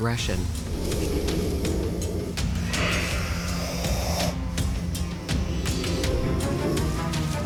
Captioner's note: light dramatic music; snakes hissing